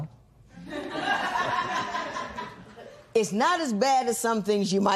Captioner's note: laughter